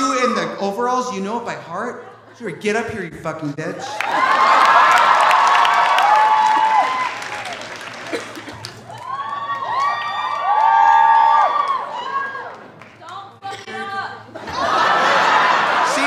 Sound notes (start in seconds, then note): 3.8 audience cheering; 3.8 audience applauding; 9.8 audience cheering; 13.6 audience laughing